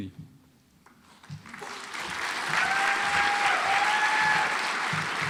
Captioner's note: audience applauds